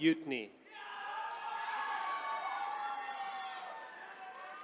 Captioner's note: attendees cheering